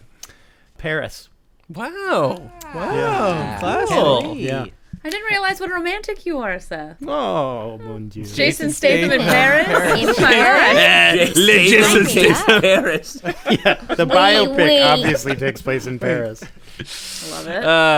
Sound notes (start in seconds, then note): 7.6 fake French accent; 13.9 horrible French accent